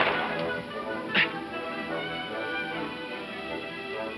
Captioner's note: grunting